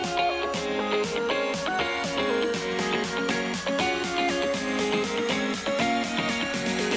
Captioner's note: none